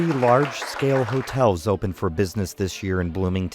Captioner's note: applause